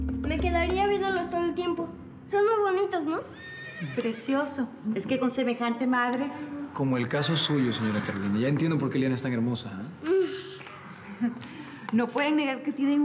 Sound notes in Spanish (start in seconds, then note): 3.3 Relinchos